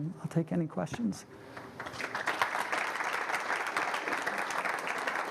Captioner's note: applause